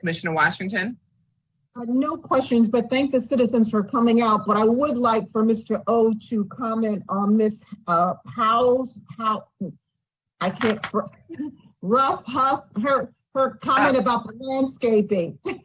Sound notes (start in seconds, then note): 10.3 chuckles